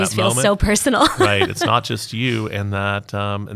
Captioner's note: laughing